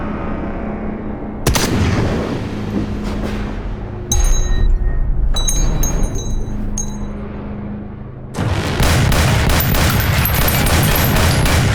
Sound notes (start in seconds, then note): 1.4 gunshot blasts; 5.2 bullet casing clangs; 8.4 gunshots blasting